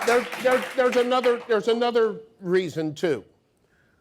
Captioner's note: audience applause